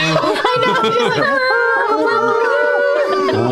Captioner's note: laughter; kazoo